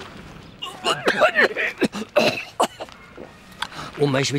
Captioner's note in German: heftiges Husten